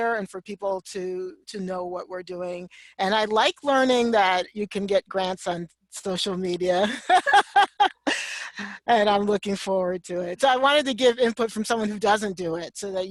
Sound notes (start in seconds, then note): 6.8 laughs loudly